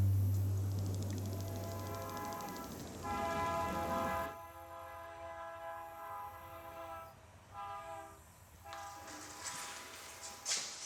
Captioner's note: sound of train passing